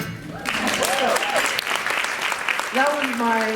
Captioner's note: applause